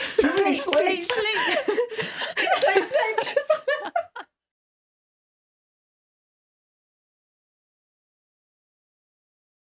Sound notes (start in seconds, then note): 5.2 all laughing